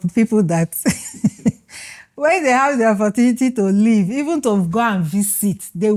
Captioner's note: laughs